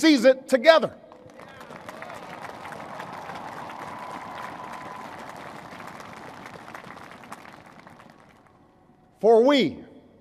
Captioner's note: applause